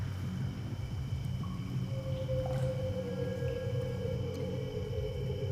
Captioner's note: eerie howling